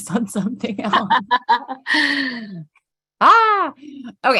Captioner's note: laughing